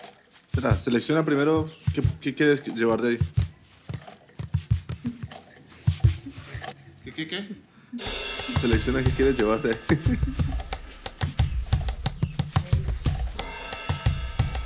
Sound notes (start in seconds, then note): 9.7 laughs